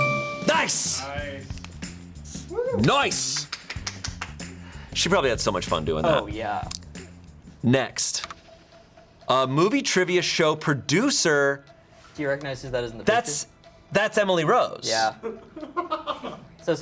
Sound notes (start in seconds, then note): 0.0 bell chimes; 1.4 light upbeat music; 3.1 crew member clapping; 8.2 button clicks; 15.8 crew members laughing